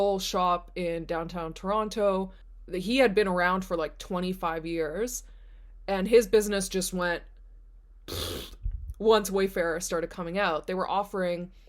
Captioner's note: blows raspberry